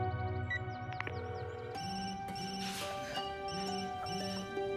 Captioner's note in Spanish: Suena el celular